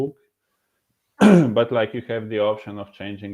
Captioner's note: clearing throat